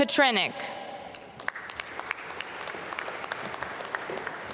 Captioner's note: applause